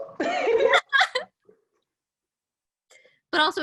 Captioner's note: laughs